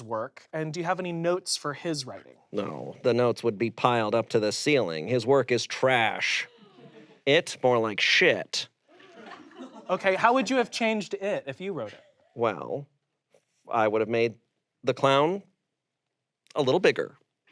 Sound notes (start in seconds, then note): 9.0 audience laughs